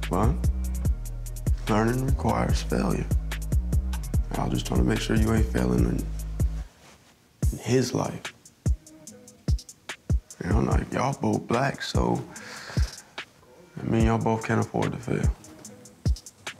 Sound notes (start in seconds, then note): none